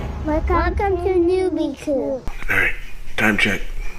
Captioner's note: child's Voice